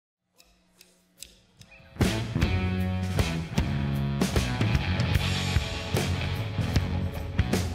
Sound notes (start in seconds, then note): 0.3 drum sticks click; 1.6 slow R&B music